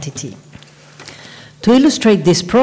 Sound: paper rustling

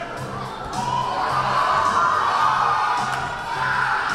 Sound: crowd cheers

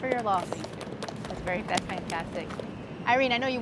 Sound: applause

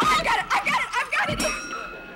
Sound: bell dings

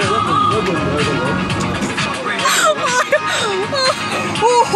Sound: shivering

